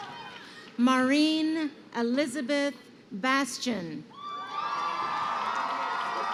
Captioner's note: crowd cheering